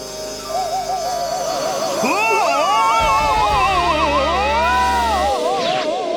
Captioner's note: suspenseful music; screaming